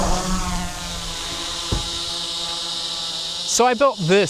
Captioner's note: drone propellers roaring